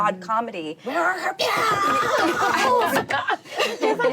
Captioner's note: laughing